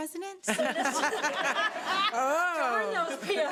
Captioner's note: laughing